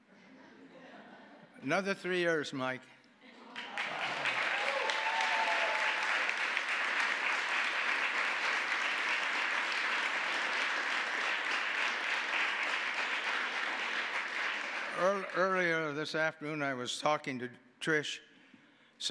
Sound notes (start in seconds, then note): 0.6 audience laughing; 3.5 applause